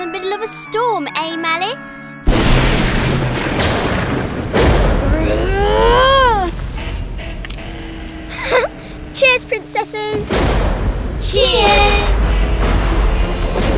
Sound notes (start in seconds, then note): 2.2 thunder booming